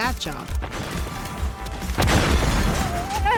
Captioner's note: explosions blasting; Archie whimpering